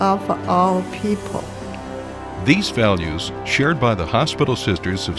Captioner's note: voiceover